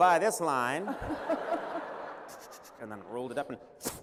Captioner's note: laughter